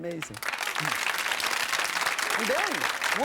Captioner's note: audience clapping